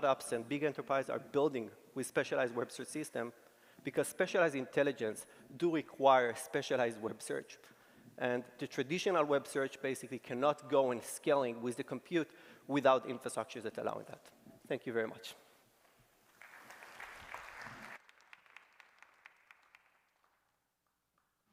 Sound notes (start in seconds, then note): 16.2 applause